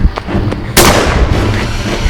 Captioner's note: gunshot